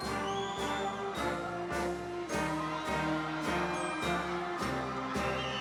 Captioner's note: audience members wolf-whistling